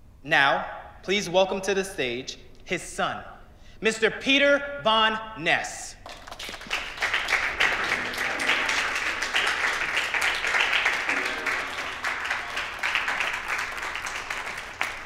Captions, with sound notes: Now, please welcome to the stage, his son, Mr. Peter Von Ness. (audience applauding)